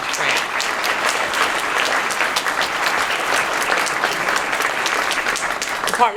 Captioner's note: applause